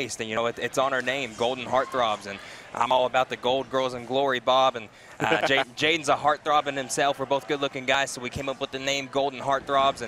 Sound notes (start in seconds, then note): 5.2 laughing